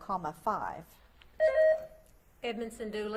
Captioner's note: buzzer beeps